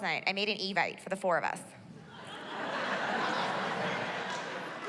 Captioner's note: laughter